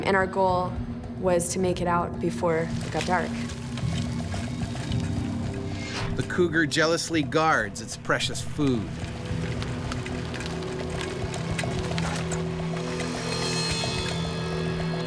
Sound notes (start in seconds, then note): 6.5 voiceover; 10.6 suspenseful music